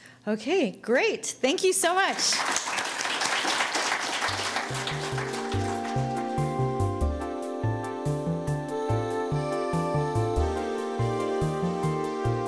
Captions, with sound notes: Okay, great. Thank you so much. (applauding) (casual music)